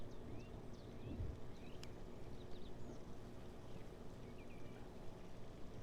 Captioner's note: birds chirping